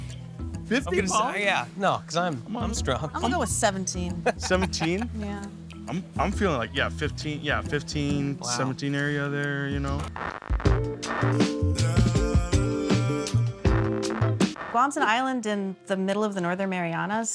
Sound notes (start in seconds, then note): 4.1 laughing; 10.1 static buzzing